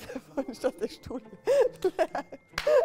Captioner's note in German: lachend